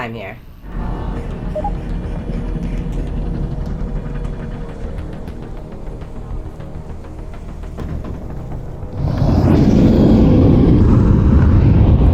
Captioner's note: engine revving